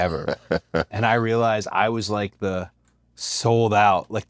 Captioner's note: laugh